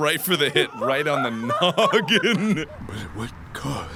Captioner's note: laughs